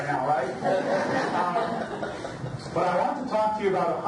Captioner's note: audience laughs